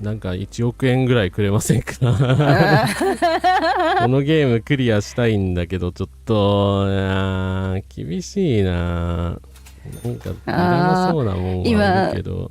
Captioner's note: laughter